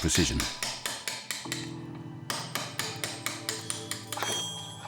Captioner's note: hammer tapping; metal clanging